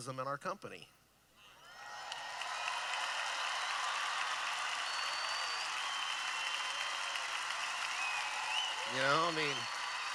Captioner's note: cheering